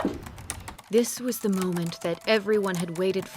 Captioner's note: typing